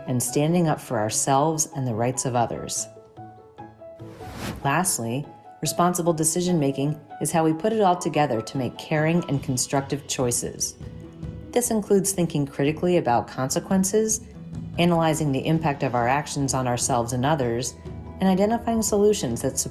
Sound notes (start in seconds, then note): 2.9 gentle upbeat music; 4.0 graphic whooshes